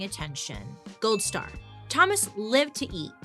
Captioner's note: gold star pinging